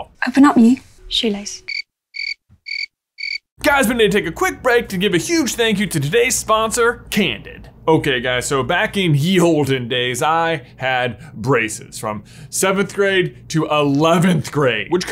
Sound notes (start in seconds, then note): 3.2 crickets chirping